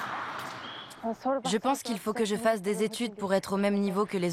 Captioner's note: foreign spoken audio